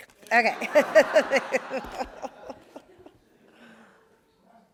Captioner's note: all laugh